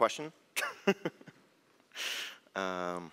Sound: laughs

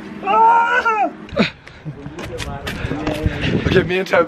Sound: groans

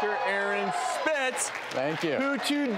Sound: audience cheering

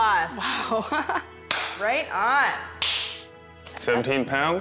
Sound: laughing

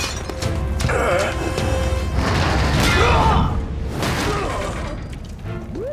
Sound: groaning

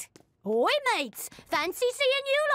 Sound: British accent

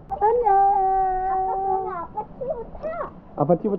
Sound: laughing

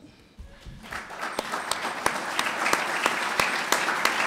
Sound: clapping

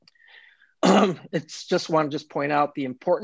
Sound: clears throat

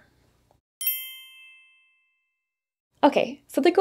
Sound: bell chimes

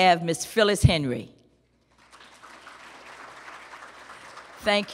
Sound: applause

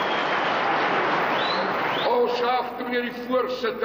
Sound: in foreign language; cheering; in foreign language

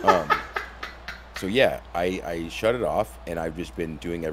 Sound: laugh

